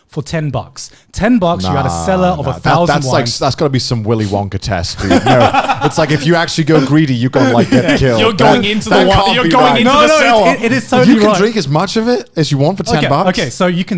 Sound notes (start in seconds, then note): 4.9 laughing